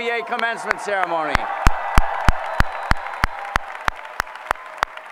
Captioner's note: applause